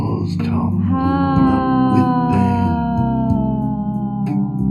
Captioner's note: sighs